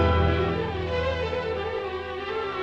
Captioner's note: none